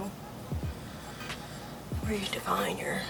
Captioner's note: takes deep breath